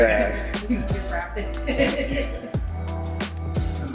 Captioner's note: cheering